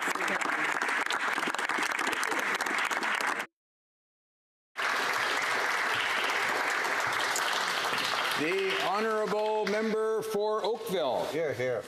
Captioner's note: some Applause